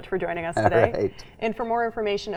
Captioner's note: laughing